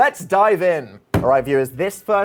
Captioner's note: table thuds